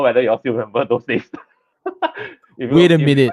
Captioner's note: laughs